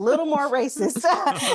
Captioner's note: laughing